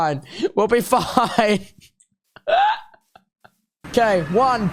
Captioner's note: laughing